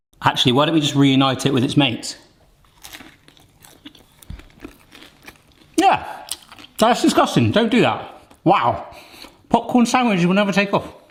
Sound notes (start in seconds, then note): 2.6 chewing